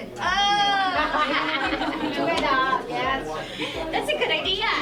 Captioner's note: laughing